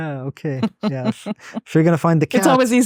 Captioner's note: chuckles